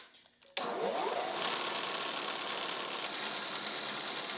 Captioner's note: machine whirring